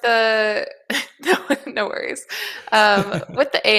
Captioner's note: chuckling